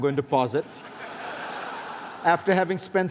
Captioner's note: laughter